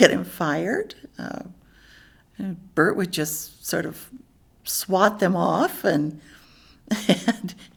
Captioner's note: laughs